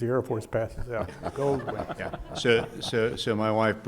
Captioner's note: audience laughing